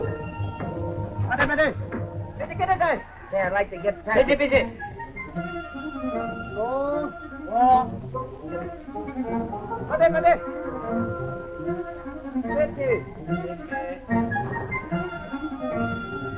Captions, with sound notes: - [ SPEAKING JAPANESE ] - I'd like to get passage... [ ORIENTAL MUSIC ]